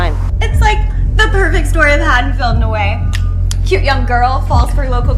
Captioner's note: smacks lips